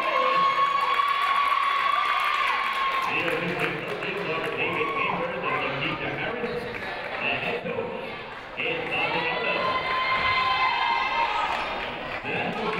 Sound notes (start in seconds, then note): 0.0 people cheering in the crowd; 3.6 muffled voice speaking over speaker; 12.6 announcer muffled by crowd cheering